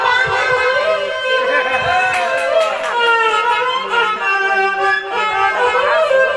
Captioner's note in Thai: ปรบมือ